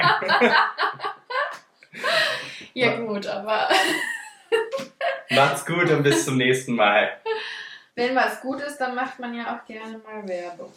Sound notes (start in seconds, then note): 0.0 laughing